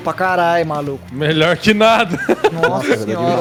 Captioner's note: laughs